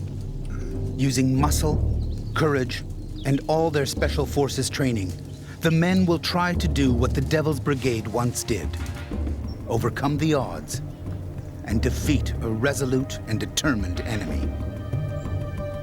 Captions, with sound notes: - [Voiceover] Using muscle, courage, and all their Special Forces training, the men will try to do what the Devil's Brigade once did, overcome the odds, and defeat a resolute and determined enemy.